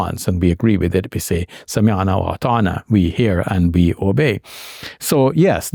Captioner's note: speaking Arabic